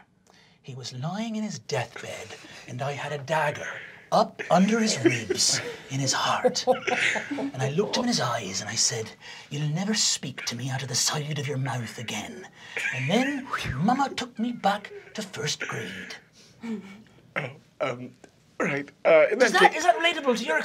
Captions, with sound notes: He was lying in his deathbed, and I had a dagger up under his ribs in his heart (giggling), and I looked in his eyes and I said, "You'll never speak to me out "of the side of your mouth again." And then, mama took me back to first grade. (giggling) - Right. In that case-- - Is that relatable to your experience?